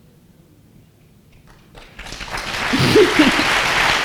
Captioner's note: applause